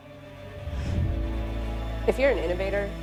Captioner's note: air whooshes